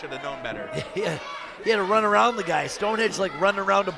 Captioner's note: chuckles